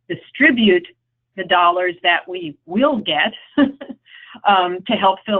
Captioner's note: laughs